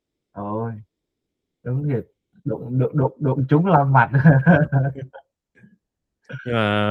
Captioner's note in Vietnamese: tiếng cười